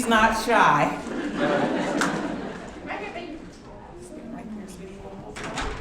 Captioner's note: audience laughing